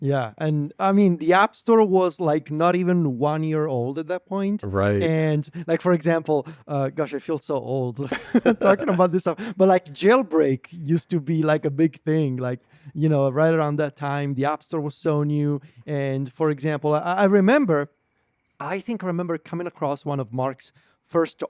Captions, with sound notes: yeah, and I mean, the App Store was like not even one year old at that point. Right. And like, for example, uh, gosh, I feel so old (laughs) - (laughs) ... talking about this stuff, but like, Jailbreak used to be like a big thing, like, you know, right around that time, the App Store was so new. And for example, I, I remember, I think I remember coming across one of Mark's first